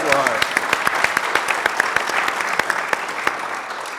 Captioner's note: audience clapping